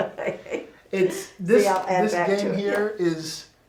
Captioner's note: laughing